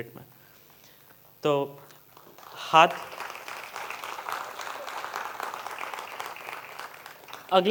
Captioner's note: applause